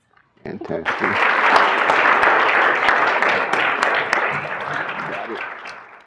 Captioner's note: applause